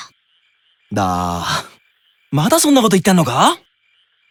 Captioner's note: sigh